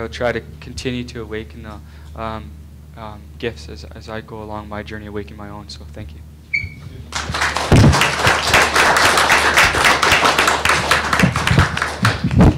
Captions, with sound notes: I will try to continue to awaken gifts as I go along my journey, I awaken my own so thank you. (applause)